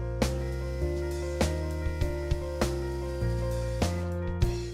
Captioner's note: drill whirling